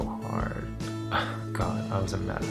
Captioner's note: sigh